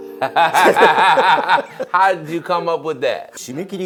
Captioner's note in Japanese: 笑い